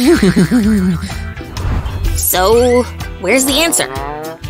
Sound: giggles dumbly

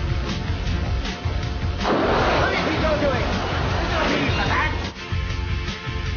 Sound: sound of flames and talking

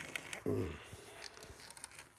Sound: groaning

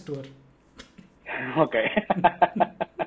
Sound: laughs

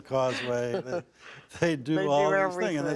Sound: laughter

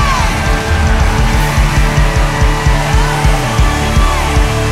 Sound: audience applauds and cheers; inspirational music

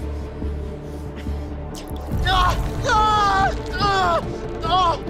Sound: screaming

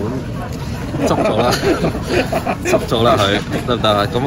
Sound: laughs

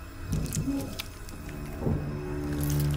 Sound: squidgy noise, hiding in goo; suspenseful music

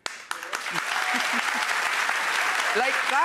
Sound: audience claps

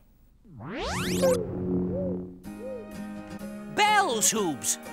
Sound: space sounds

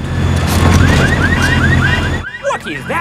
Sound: car alarms blaring

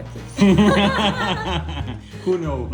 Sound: laughter

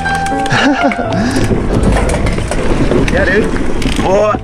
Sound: laugh

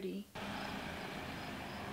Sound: car sounds; eerie music

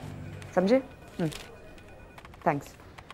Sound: phone ringing

